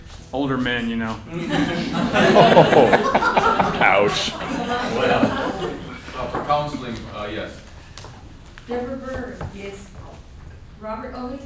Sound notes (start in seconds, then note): 5.5 laughter